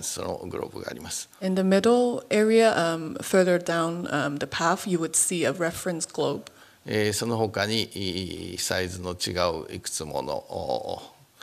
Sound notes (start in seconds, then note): 6.7 speaking japanese